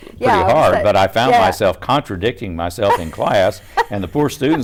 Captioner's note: laughs